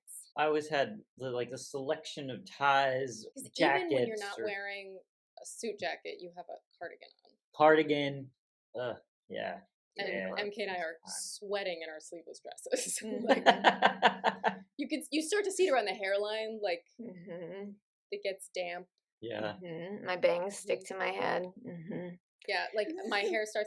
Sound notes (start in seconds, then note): 13.2 laughter